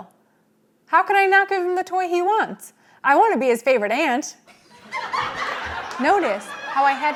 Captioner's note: studio Audience Laughs Hysterically